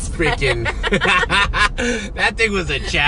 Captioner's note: both laughing